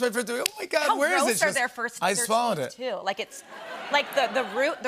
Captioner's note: laughter